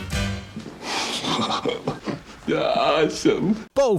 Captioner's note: chuckling